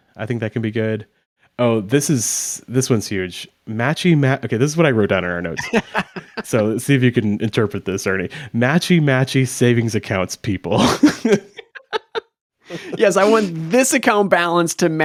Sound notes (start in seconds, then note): 5.6 laughs; 10.7 chuckling